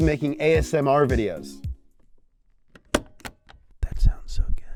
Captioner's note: clicks; whispering